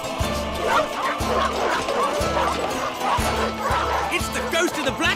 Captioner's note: neighs; barking